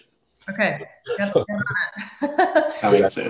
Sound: laughs; faintly speaks

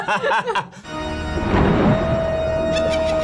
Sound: both laugh; haunting organ music; thunder crashes; evil laughter

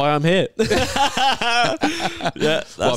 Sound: laughing

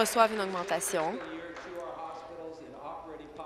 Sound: applause

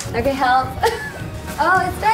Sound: laughing

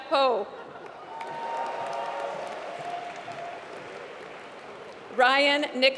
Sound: applause

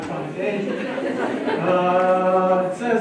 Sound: laughter

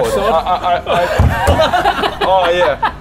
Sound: snickering

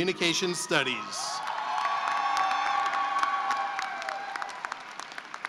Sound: cheering and applause

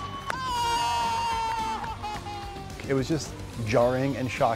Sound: cheers & applause

